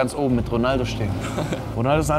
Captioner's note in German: lacht